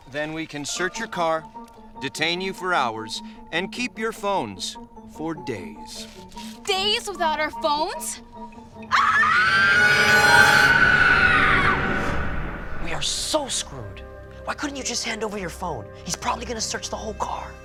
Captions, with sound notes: then we can search your car, detain you for hours, and keep your phones for days. Days without our phones? (screams) We are so screwed. Why couldn't you just hand over your phone? He's probably gonna search the whole car.